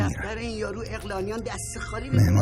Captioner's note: background chatter